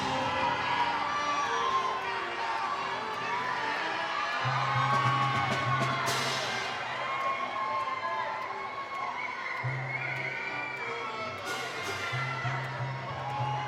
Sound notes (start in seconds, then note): 1.3 attendees applaud; 1.3 attendees cheer